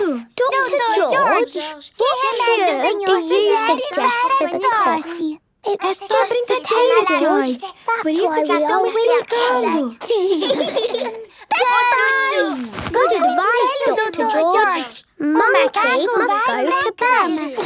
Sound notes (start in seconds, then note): 10.0 laugh